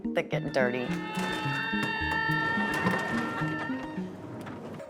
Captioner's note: laughs; group cheers